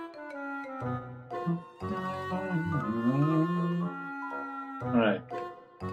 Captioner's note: hums along